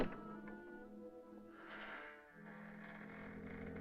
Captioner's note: hinge Creaking